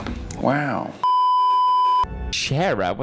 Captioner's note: beeeeeeeeeeeep